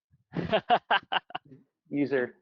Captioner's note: laughing